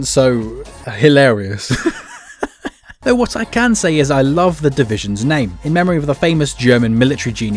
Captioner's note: laughing